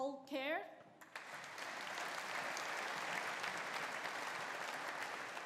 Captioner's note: audience applauding